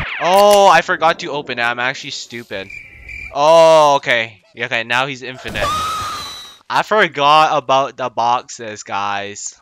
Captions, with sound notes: Ohhhhhh I forgot to open it... I'm actually stupid Ohhh okay, okay now he's infinite *INTENSIFIED SCREAMS* I forgot about the boxes guys...